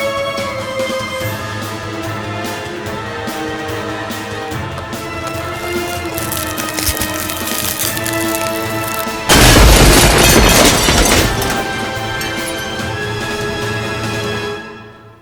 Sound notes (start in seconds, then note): 0.2 dramatic music; 5.2 mirror cracking; 9.1 mirror shattering; 12.4 dramatic music